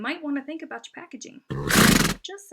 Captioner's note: horse Snorting